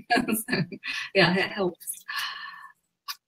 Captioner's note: laughs